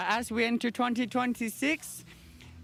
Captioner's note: none